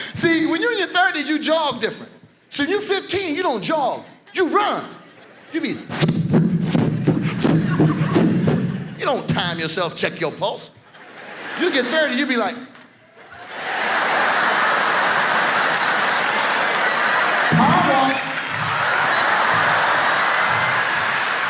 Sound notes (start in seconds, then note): 6.0 sounds out running; 13.4 audience laughs; 18.6 audience laughs